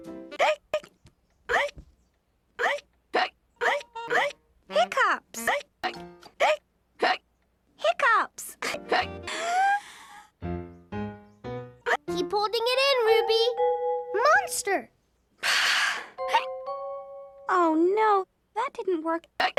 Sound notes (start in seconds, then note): 2.8 burping noise???; 8.7 1 frame giggle; 9.3 breathing in sound